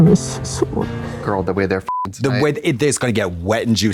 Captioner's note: beep